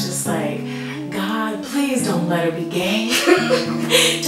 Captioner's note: laugh